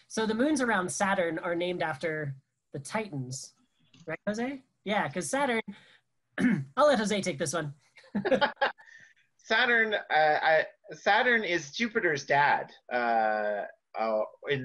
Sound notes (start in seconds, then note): 8.1 laughs